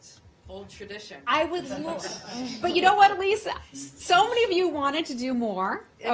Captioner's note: laughter